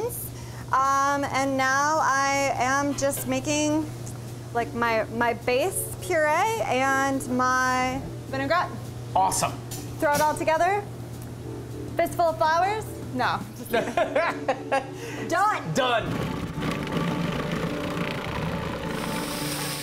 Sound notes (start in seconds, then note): 13.8 laughing